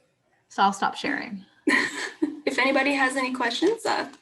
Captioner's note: laughs